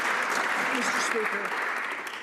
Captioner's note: some Applause